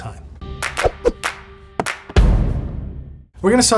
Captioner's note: bright music; hands clapping